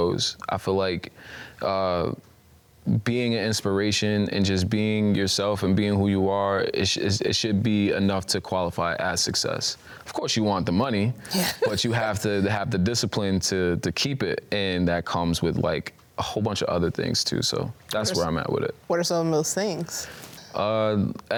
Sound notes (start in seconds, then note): 11.3 laughing